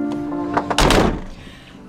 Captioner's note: close car doors